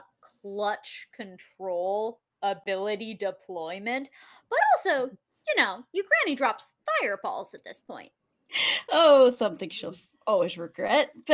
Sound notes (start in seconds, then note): none